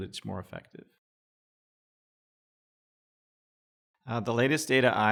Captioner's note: silence